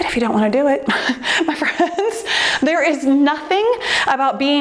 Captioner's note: laughs